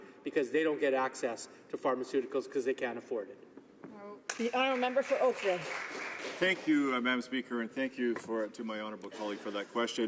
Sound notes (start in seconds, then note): 7.8 some applause